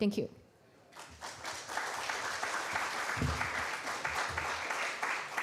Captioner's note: applause